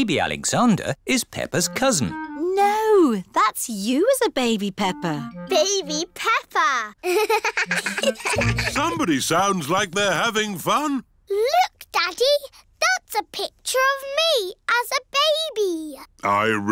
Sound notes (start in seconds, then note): 7.0 both laugh